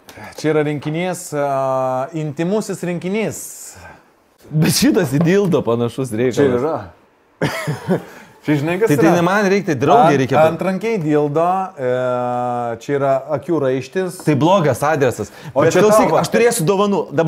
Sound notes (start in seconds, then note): 7.4 chuckles